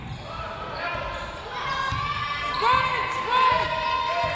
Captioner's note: crowd members shouting